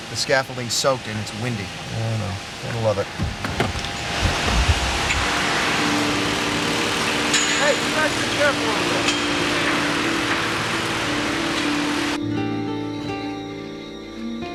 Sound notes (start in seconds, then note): 4.6 tools whirring; 5.7 brooding music